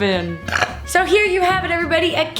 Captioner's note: sniffs; burps